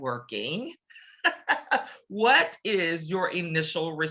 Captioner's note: laughs